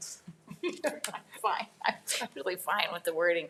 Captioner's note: laughing